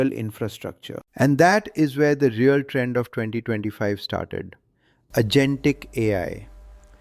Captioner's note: excited